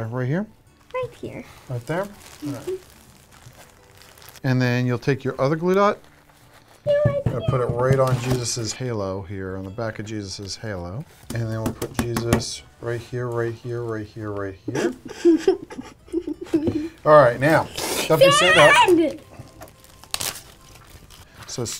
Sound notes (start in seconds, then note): 14.7 laughs